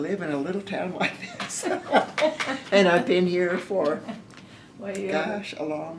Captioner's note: laughter